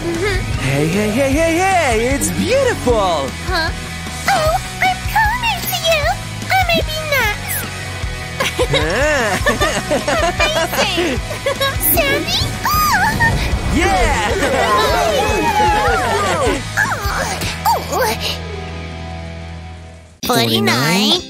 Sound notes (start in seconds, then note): 5.3 making happy sounds